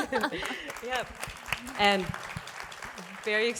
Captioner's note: applause